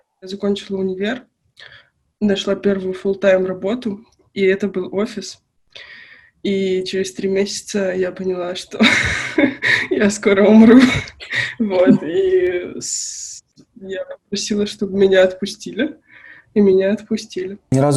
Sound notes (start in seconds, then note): 9.6 laughs